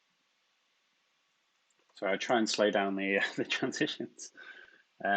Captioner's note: chuckles